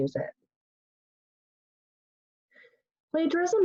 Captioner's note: pause